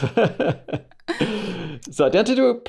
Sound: laughter

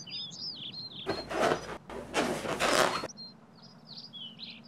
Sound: birds chirp; balloons squeak

